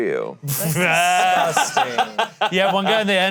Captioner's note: laughing